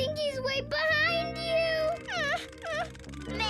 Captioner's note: Max whines